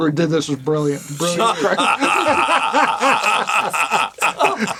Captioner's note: laughter